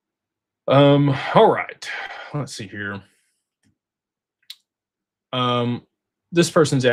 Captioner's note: sighs